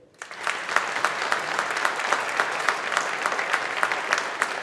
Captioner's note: audience applauding